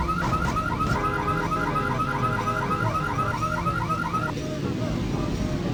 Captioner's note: car horn blaring